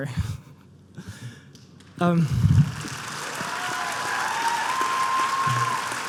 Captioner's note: applause